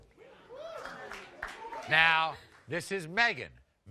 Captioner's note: audience members cheering and applauding